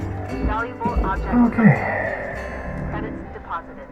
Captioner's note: sigh